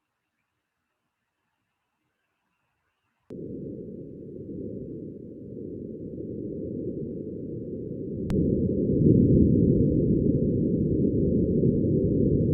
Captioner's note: fairly loud sounds of wind, like being inside of a jet plane